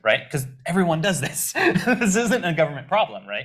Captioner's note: laughs